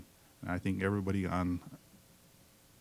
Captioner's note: none